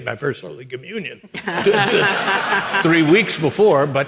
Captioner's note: audience laughing